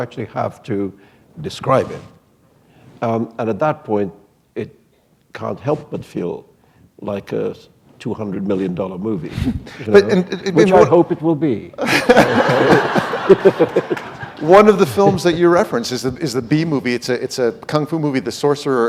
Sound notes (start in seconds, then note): 11.8 laughter